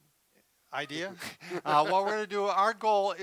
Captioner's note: laughs